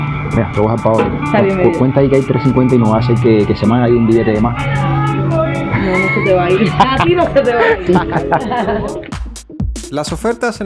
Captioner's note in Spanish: risas